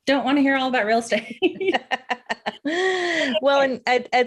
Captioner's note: laughs